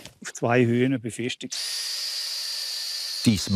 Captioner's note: machine drone